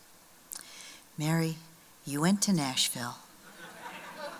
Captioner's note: laughter